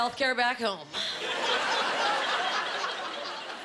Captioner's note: laughing